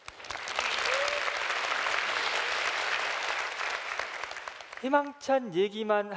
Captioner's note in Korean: 박수